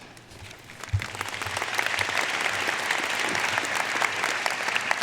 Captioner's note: audience applauding